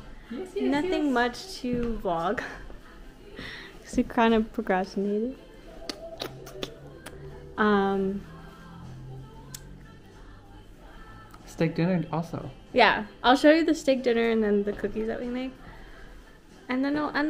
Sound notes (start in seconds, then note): 2.5 laughs; 5.8 kisses